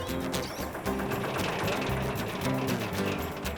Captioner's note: engines Running